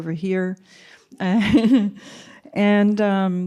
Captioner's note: laughter